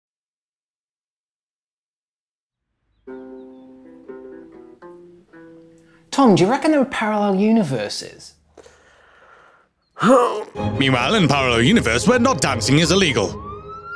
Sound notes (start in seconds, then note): 3.0 guitar playing; 10.0 groaning